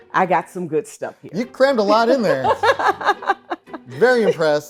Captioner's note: laughing